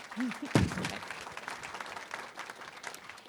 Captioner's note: applause